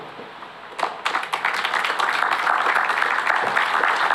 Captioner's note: applause